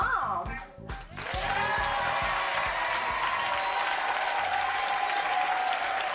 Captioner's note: audience cheering and applauding